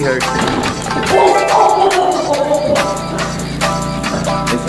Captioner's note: laughing